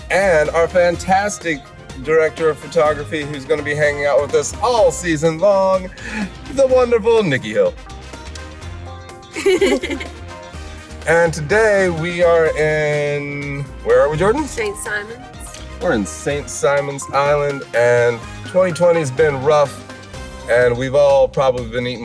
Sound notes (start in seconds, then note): 9.3 laughs